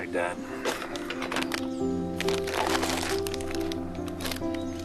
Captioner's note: wrapper crinkling